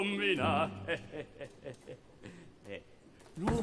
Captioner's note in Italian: risata